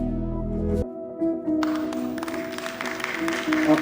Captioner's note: applause